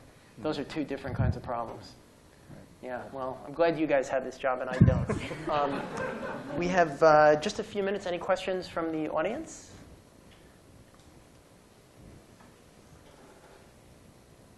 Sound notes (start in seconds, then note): 4.8 laughter